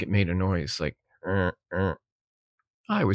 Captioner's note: grunting